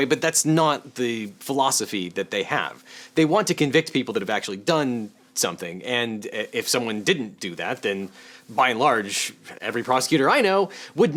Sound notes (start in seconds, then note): none